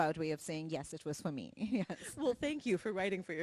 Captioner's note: laughs